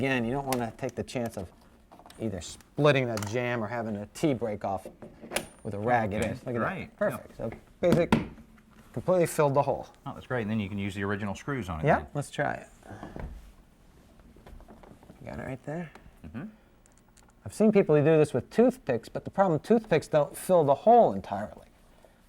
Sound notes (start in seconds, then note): 5.3 hammer pinging; 7.9 hammer tapping